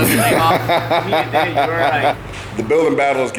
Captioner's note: hurt laughs